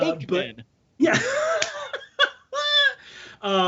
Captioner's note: laughs